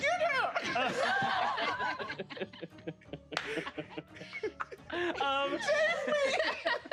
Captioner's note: players laughing